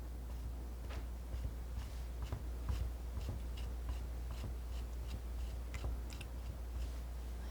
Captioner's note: scratching